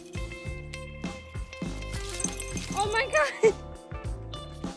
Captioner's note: dog feet scraping ice